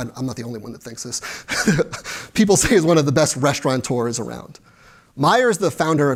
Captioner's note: laughs